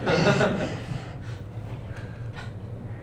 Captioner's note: laughter